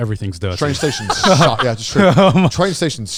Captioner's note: laughing